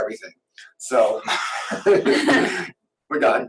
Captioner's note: laughs